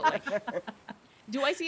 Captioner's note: people laughing